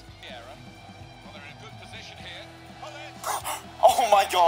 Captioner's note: commentating